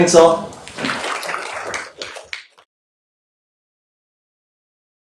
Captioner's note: applause